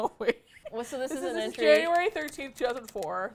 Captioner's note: laughs